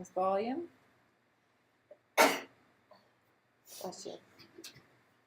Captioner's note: sneeze